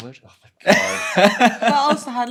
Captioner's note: laughing